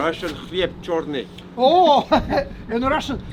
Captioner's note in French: rires